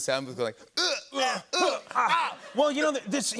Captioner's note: both grunting